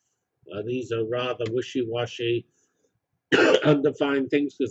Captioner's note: cough